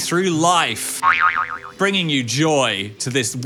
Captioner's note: spring bounces